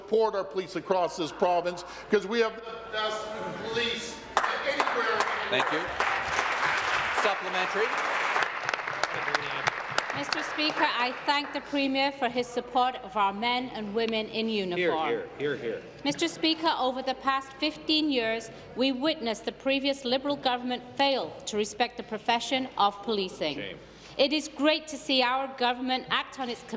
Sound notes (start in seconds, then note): 6.5 voice trailing; 10.4 applause